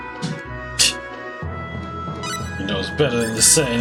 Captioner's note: scoffs